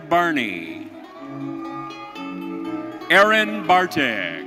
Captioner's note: audience cheering